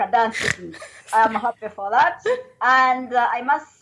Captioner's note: continued Lauguhter